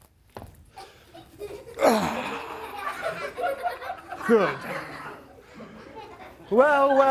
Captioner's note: laughter; grunts